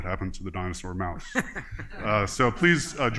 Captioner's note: laughter